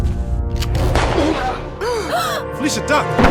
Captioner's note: gun firing